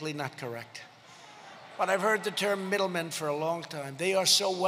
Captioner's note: laughter